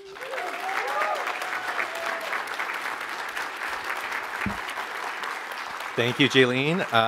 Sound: applause

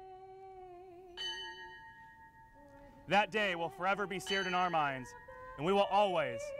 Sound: bell toll, bell toll

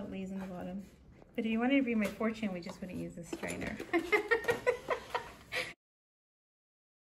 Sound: laughter

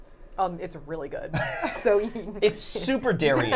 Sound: all laughing

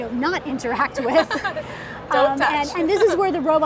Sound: laughing

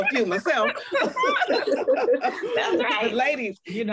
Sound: laughter

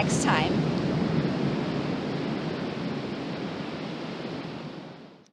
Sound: ocean waves

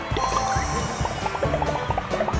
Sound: punctuation sound

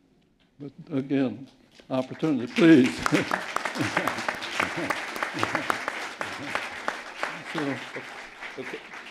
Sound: applause

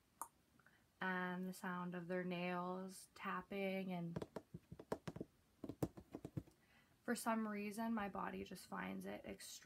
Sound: tapping

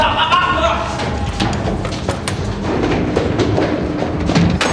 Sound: footsteps thudding

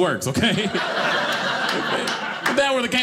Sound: audience laughing

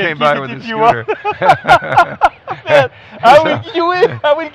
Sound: laughing

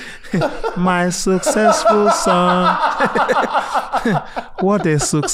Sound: laughs

